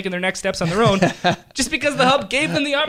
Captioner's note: laughing